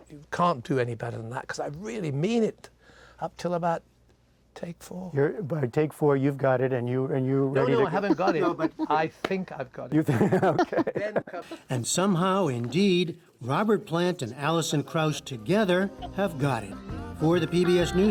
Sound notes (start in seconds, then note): 10.0 laughter